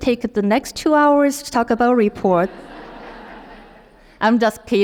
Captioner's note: audience laughs